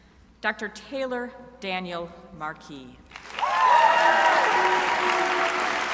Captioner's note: crowd applauding